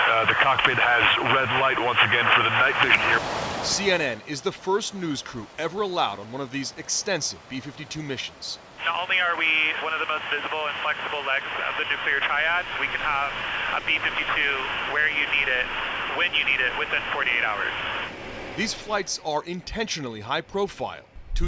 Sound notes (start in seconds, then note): 4.1 voice-over; 19.0 voice-over